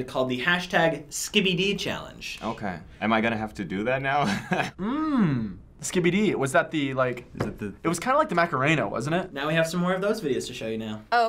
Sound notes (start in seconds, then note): 4.2 chuckles